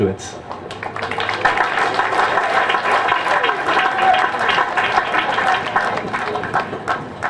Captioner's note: applause